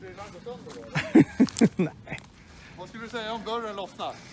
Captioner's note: chuckles